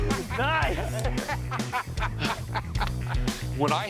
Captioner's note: laughing